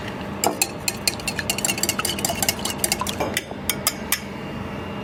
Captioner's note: bowl clinks